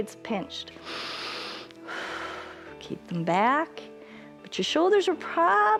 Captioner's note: inhales and exhales